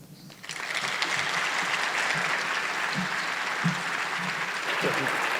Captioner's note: audience applauding